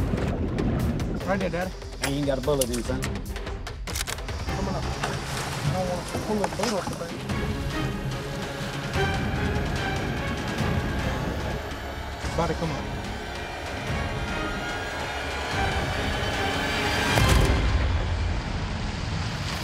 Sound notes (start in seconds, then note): 7.0 suspenseful music playing; 17.2 gunshot